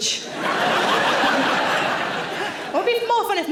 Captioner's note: audience laughing